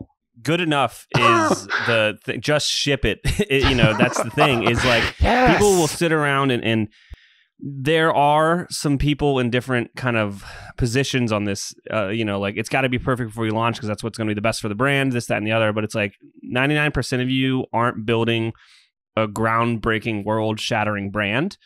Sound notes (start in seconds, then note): 3.5 laughs